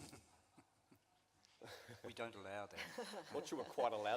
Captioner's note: laughter